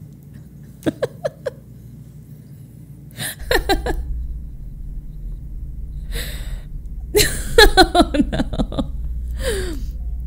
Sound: laughs; laughs

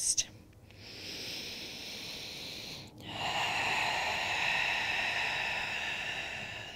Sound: heavy breathing

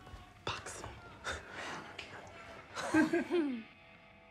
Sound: geeks snigger; chuckles

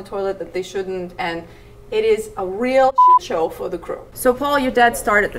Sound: beep

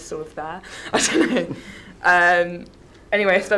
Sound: chuckles

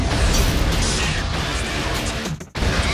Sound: epic Heavy Metal Music; spaceships’ thrusters humming; epic Heavy Metal Music

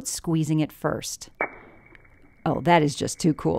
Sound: popping sound

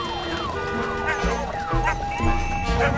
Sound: yapping

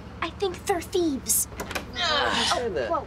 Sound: groaning

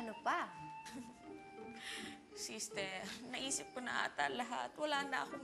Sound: chuckles

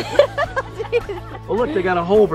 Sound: giggles

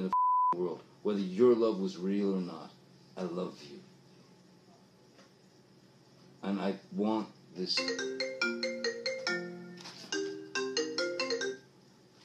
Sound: phone rings

